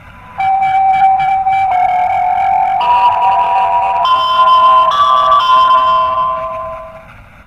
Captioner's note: eas alarm